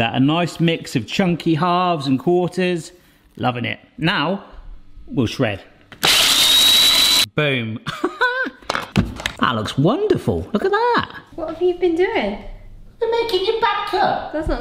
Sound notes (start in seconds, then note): 6.0 blender buzzing; 8.3 laughs